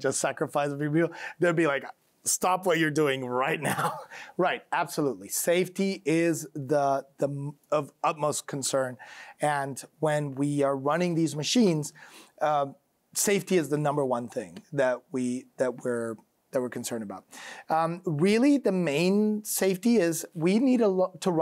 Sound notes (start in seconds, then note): 3.6 chuckles